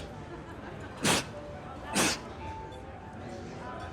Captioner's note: sneezes; sneezing